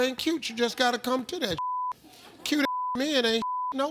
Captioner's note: beep; beep